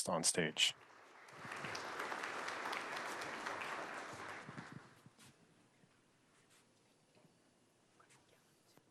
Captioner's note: applause